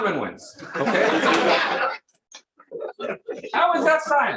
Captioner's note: laughter